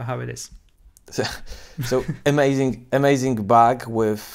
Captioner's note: chuckles